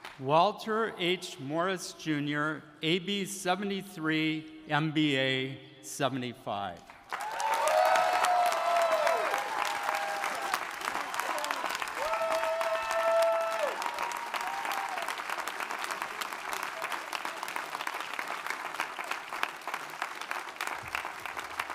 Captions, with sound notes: Walter H. Morris Jr., AB '73, MBA '75. (audience cheering) (audience applauding)